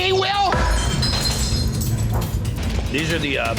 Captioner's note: glass shattering